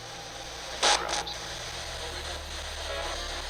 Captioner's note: spirit box voice